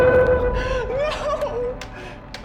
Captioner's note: laughing nervously